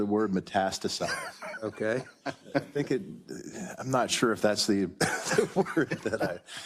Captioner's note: laugh